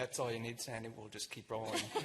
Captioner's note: laughter